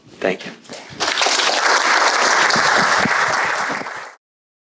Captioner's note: audience applauding